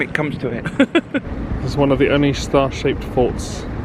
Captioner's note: chuckles